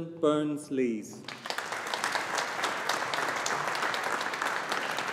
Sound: audience applauding

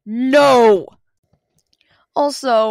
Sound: silence

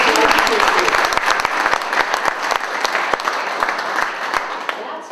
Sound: applause

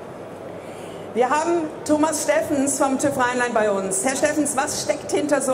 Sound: speaking in foreign language

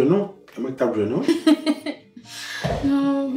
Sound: giggles

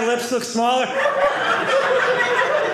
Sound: audience laughing

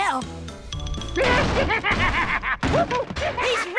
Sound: laughing, banging

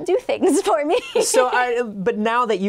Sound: laughing

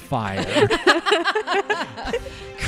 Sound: laughter

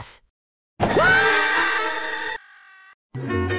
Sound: Squidward bursts out screaming

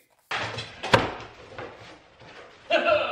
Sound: cardboard thuds; sobs

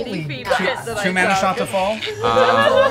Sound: laughing

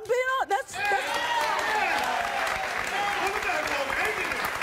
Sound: applause

